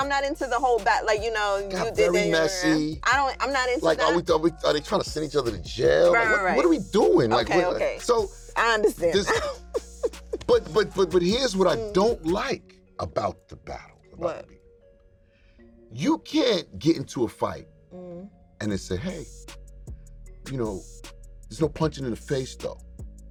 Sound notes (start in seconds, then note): 9.0 chuckles